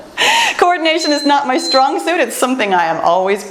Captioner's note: timer beeps